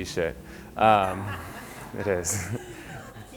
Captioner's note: audience laughing